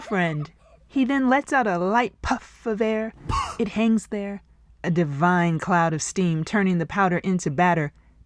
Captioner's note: puff!